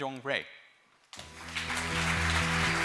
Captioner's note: applause and cheers